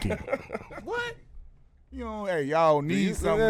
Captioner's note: laughing